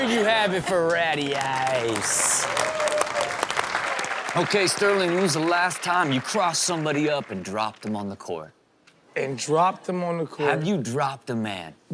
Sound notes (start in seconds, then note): 2.0 crowd applauds